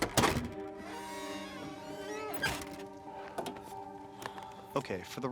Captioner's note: door squeaks